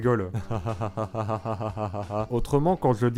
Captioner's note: sarcastically laughing